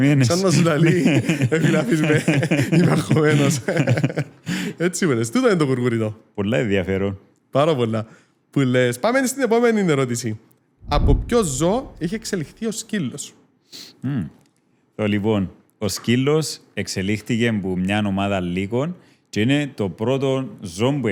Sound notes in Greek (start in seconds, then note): 0.2 γέλιο